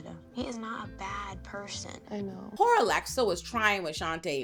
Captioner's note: none